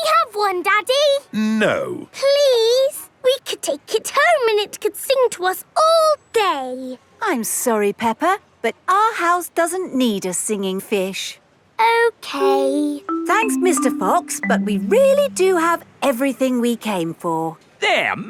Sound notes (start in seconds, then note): none